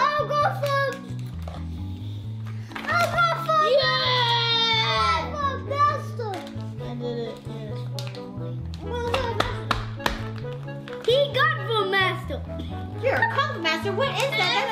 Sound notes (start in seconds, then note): 9.4 smacking noises